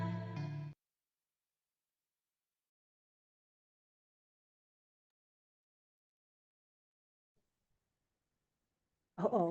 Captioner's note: pause